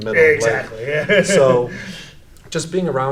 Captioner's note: laughs